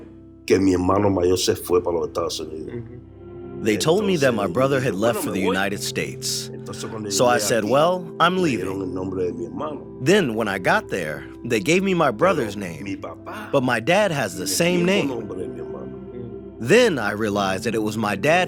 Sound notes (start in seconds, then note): 2.7 through translator; 3.3 speaking Spanish; 4.4 through translator; 17.0 through translator